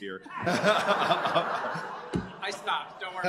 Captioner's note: laughter